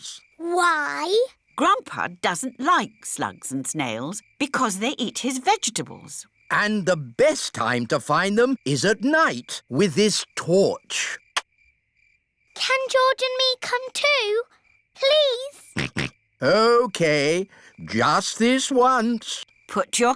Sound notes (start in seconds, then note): 15.7 snorts